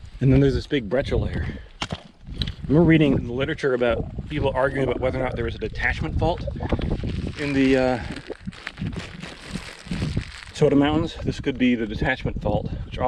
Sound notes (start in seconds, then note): none